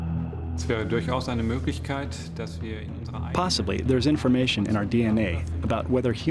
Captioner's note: non-english speech